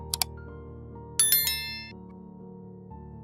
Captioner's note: click; bell rings; gentle music